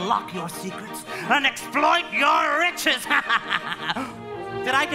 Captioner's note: laughs